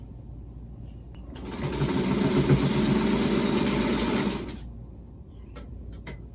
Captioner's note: sewing machine whirring